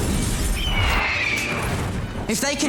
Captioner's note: fawkes screeching